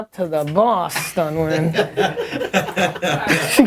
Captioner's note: people laughing